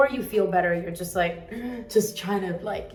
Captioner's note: groans